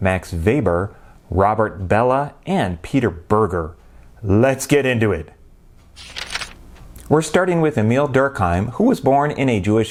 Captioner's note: page turning